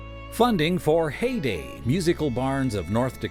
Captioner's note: voiceover